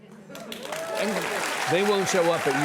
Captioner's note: audience applauds